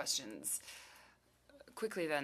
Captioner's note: speaking French